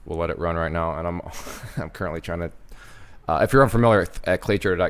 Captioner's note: chuckles